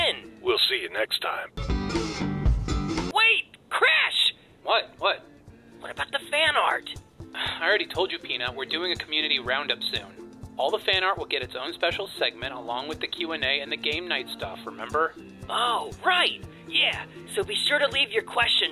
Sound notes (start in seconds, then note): none